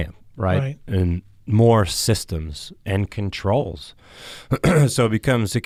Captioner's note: clears throat